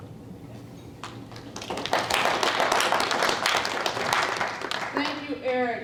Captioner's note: applause